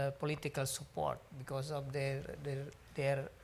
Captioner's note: speaks foreign language